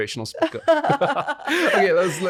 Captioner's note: laughing